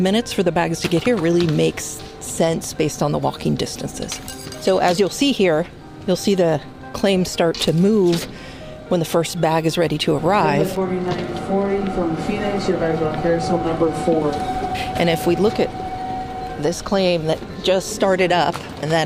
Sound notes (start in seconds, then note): 10.8 airport announcement